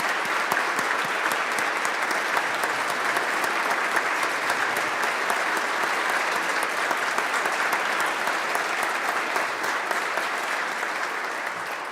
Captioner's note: applause